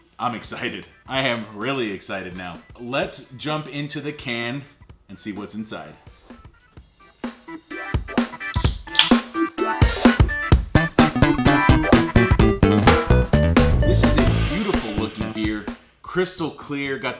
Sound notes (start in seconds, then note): 8.4 can opening sound; 10.0 upbeat music